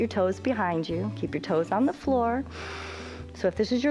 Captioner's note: inhales